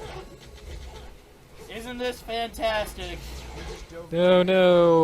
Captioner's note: sarcastic